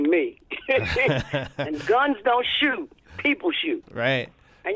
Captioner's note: laughter